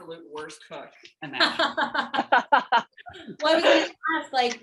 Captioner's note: laughter